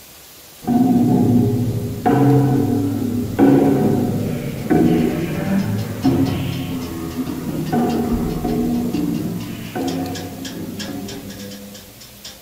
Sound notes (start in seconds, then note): 0.0 rain Pouring; 0.6 instrument Playing